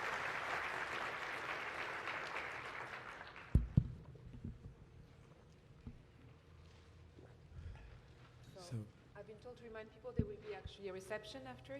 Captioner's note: applause